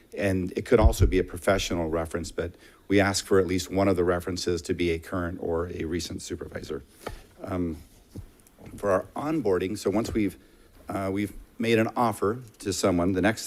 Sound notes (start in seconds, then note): none